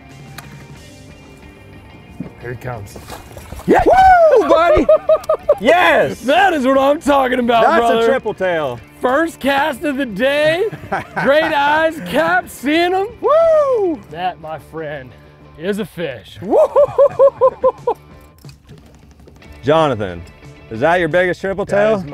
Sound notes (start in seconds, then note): 3.7 both cheering; 10.6 chuckles